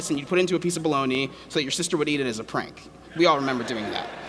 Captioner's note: laughter